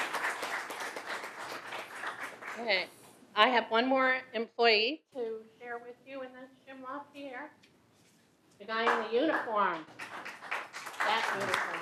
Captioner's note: applause